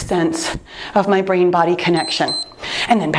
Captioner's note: timer beeps